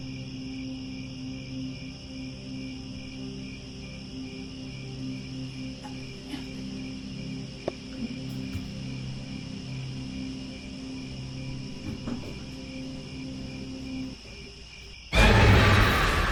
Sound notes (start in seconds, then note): 0.0 crickets, haunting music; 15.1 jump scare